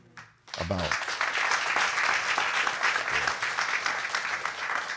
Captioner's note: audience applauding